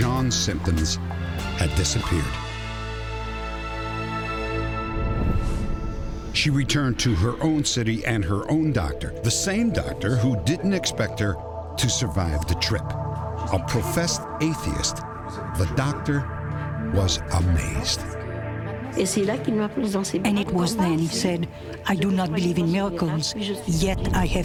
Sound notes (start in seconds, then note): 18.9 speaking french